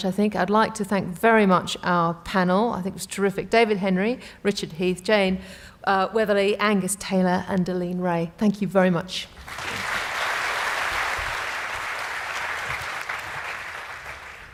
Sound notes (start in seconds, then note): 9.4 applause